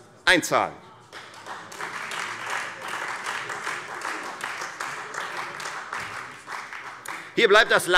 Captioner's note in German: Beifall Freie Demokraten und vereinzelt SPD